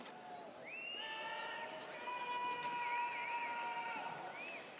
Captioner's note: audience cheers